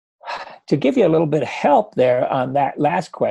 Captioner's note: sigh